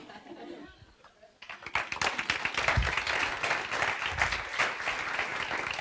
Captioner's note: audience applauds